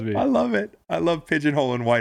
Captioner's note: laughing